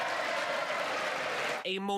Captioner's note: cheers